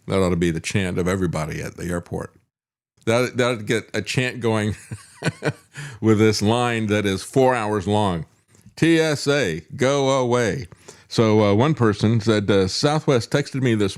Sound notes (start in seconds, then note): 4.8 laughs